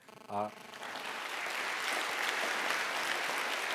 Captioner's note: applause